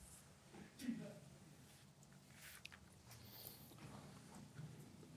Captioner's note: sliding cards